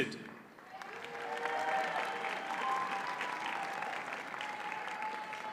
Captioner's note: audience cheers and applauds